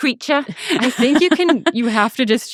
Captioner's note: laughing